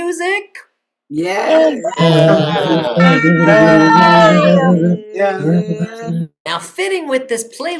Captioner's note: cheering